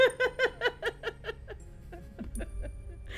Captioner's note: laughing